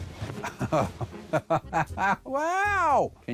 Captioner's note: laughs